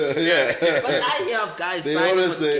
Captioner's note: laughs